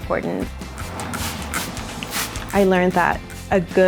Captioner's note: spraying water